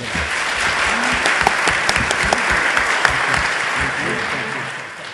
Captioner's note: everyone applauding